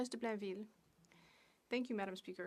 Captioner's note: speaking French